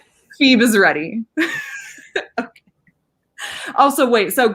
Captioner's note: laughing